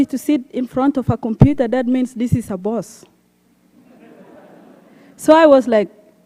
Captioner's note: laughter